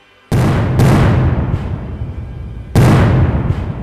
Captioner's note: cannons fire